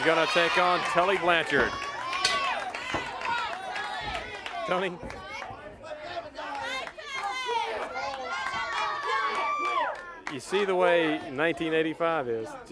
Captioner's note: crowd chatter